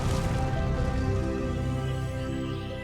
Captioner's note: birds chirp